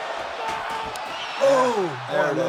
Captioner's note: Sami screams